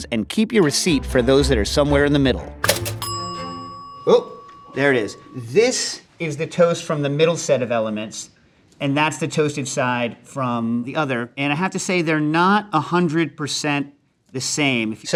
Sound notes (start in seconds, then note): 2.6 bell pings